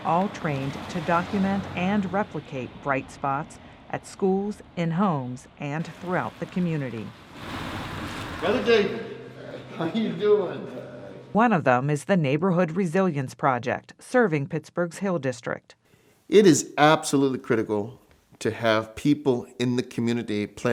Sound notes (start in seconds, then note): 7.2 car engine roaring